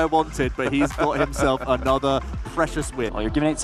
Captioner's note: laughter